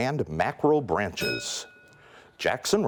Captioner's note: bell rings